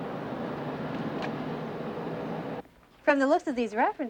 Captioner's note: passing traffic